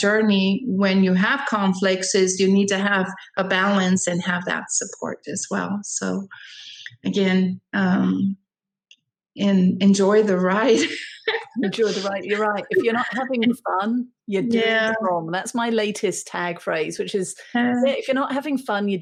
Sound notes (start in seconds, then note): 10.7 laughing